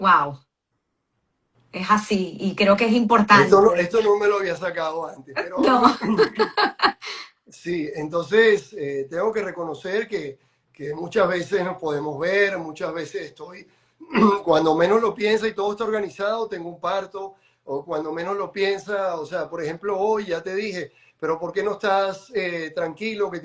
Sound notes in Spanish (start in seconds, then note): 5.4 risas; 14.0 carraspeo